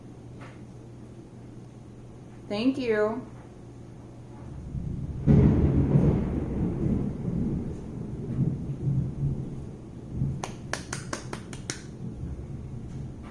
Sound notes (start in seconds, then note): 4.4 thunder; 10.4 clapping